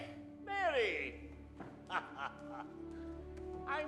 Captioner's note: chuckles